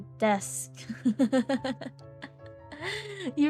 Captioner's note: laughs